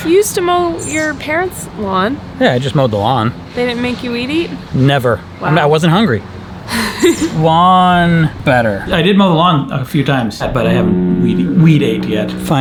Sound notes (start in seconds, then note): 6.6 laughs